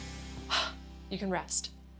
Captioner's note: sighs